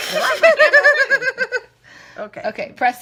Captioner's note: laughing